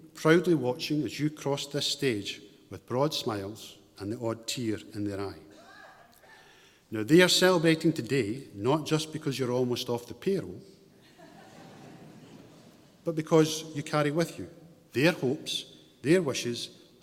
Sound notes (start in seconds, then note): 11.0 audience chuckles